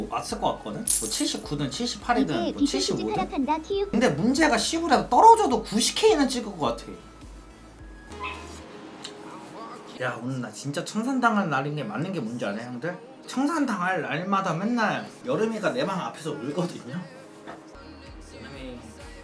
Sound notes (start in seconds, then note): 8.2 the sound of a puppy